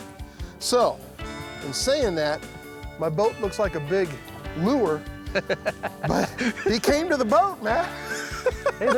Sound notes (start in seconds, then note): 5.3 laughing